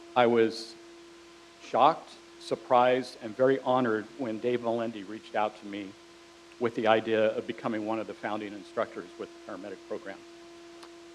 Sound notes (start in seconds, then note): none